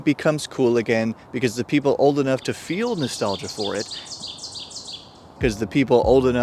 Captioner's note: bird screams